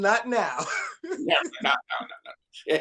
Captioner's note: laughs